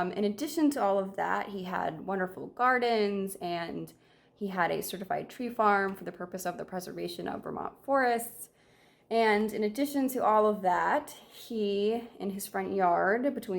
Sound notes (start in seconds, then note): none